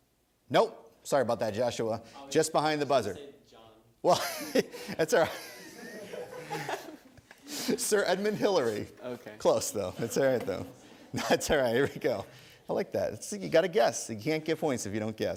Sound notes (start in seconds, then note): 4.1 audience laughter; 8.2 laughing